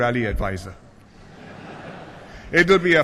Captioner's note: laughter